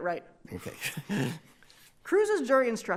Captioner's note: chuckling